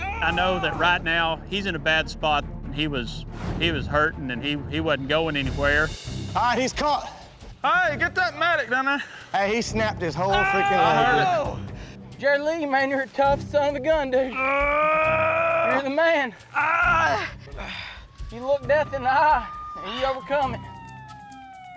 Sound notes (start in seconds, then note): 11.5 shouting; 14.4 yelling